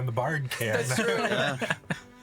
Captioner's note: laughing